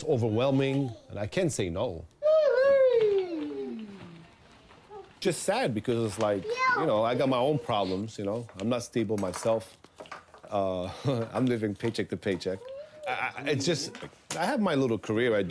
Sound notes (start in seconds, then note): 9.1 laughs